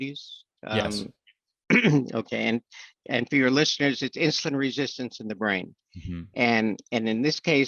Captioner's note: clears throat